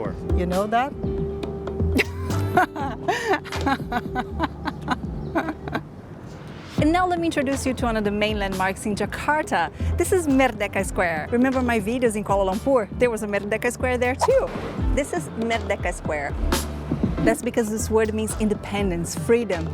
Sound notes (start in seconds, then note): 1.9 laughs